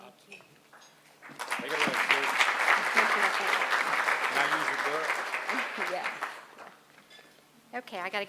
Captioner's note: applause